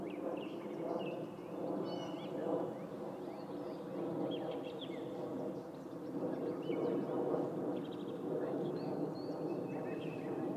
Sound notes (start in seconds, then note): none